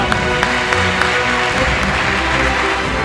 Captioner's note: the audience applauds